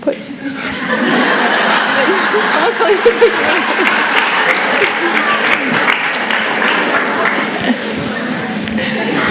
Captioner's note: laughter followed by Applause